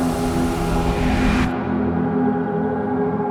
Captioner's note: whoosh